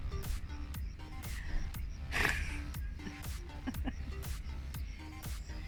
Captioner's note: laughter